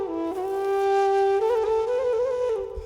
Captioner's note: footsteps